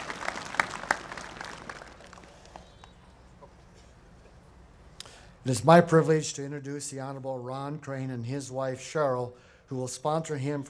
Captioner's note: applause